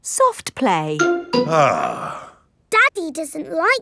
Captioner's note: sighs